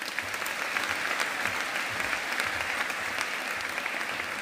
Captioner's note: audience applauding